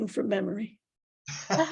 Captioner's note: laughs